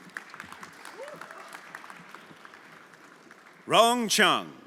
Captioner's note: everyone applauding